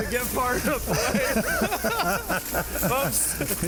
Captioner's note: group laughing